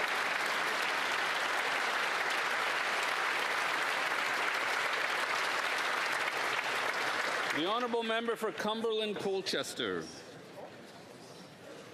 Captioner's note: applause